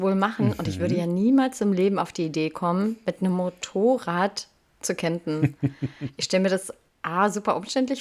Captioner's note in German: gelächter